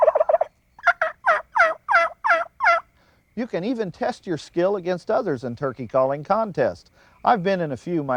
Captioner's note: gobble/yelp